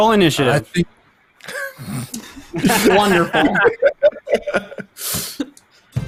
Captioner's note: all laugh